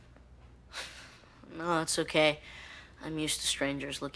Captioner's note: chuckles